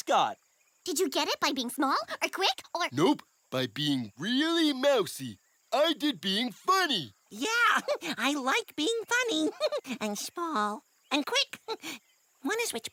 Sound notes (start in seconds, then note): 9.2 giggle